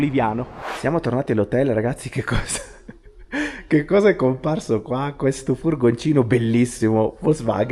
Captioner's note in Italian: risate